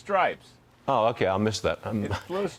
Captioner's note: laughter